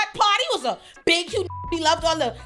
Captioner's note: beep